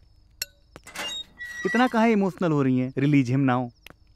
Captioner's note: Door closing